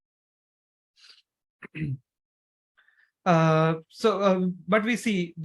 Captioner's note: clears throat